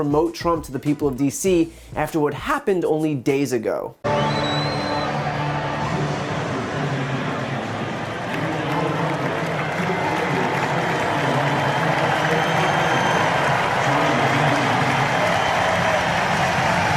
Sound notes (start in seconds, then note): 5.7 cheers